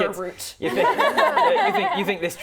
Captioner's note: laughing